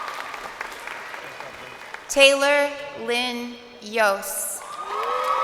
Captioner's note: crowd cheering